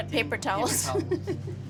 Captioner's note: laughs